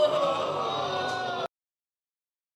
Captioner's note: audience exclaiming